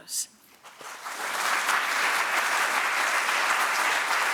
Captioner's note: audience applauding